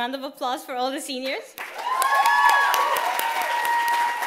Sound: applause

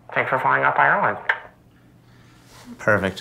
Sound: mouth click

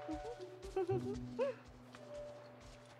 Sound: Ariel Giggling

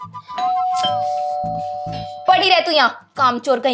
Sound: door Bell Ringing

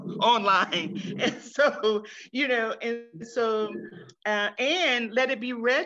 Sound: chuckles

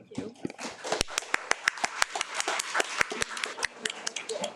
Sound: audience applauding

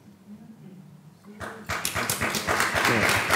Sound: applause

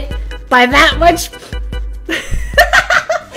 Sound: inhale-hmph

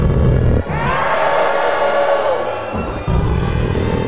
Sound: growling; dramatic instrumental music

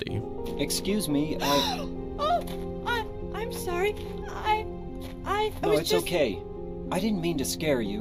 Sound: gasps

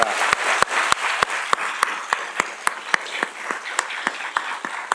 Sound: audience applauding

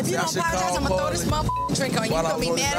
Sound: beep

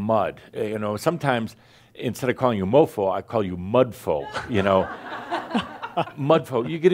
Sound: more laughter

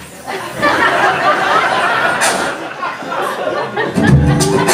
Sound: laughter

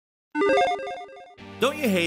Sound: logo beeping

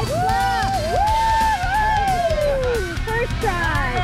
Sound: people cheer

